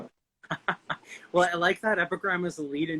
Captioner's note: chuckling